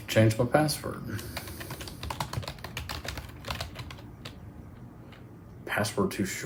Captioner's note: typing